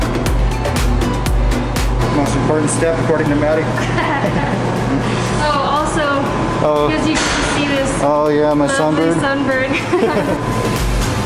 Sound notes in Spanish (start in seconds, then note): 4.6 Risas